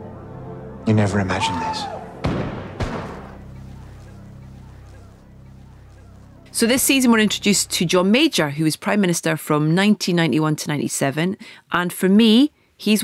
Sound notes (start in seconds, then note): 1.7 soldier screams order; 2.2 gun fires